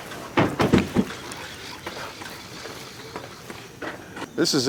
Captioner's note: truck doors slam